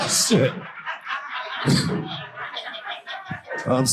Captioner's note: audience laughing